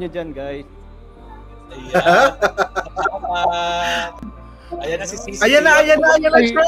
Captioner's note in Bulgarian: Смях